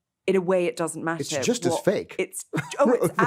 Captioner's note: laughs